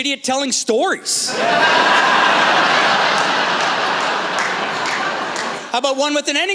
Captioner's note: laughter